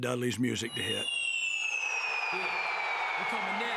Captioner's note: applause